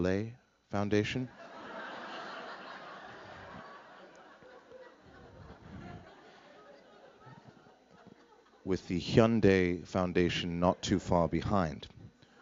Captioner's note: laughter